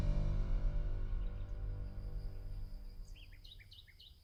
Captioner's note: birds chirping